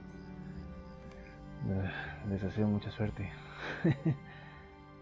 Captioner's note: laughs